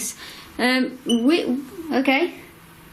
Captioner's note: beep